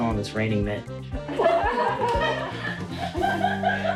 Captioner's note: group laughs